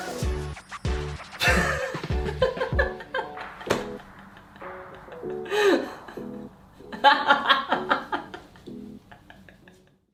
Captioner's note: laughing